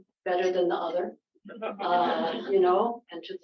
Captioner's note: laughter